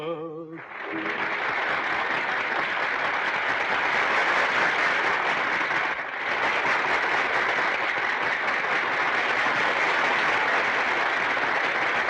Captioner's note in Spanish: Aplausos